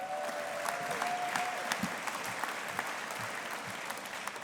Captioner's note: audience applauding